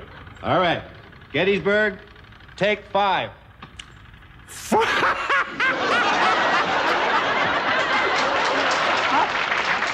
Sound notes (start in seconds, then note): 4.5 guffaws; 4.6 audience laughs and cheers